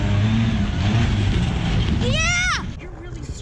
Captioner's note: truck's engine revving